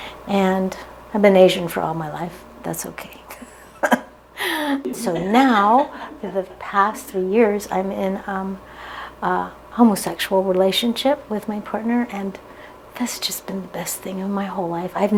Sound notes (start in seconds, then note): 4.4 chuckles; 4.7 giggling together